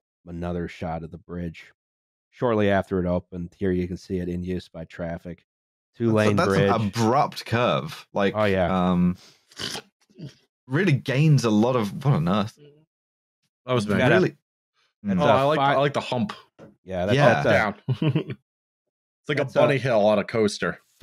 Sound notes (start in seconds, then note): 9.4 schlurp; 17.1 chuckles